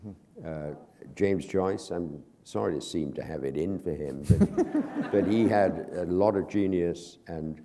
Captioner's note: laughter